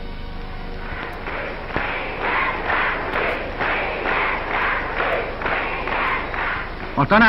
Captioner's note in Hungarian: Lelkes éljenzés és taps